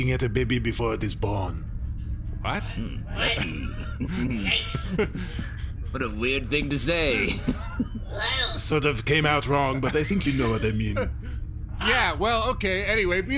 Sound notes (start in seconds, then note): 5.8 Derf and Bajankles chuckle uncomfortably; 8.7 Bargie makes an "ugh" sound